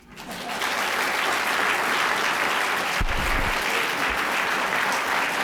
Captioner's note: applause